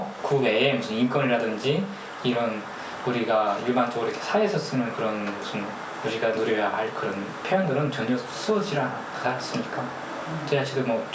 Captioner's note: speaking in foreign language